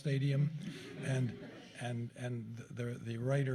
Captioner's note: chuckling